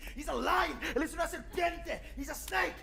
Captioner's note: speaking Spanish